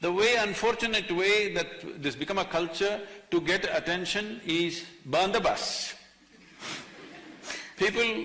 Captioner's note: few laugh